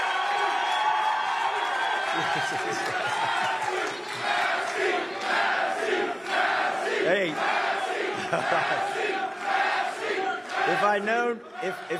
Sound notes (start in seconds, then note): 3.6 cheers and applause; 9.8 chanting "massie!"